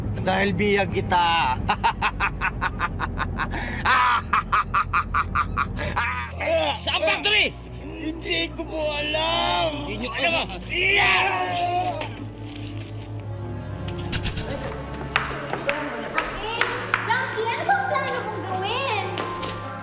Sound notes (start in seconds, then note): 1.6 laughs maniacally; 11.6 goons scream